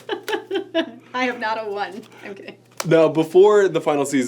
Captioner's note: chuckles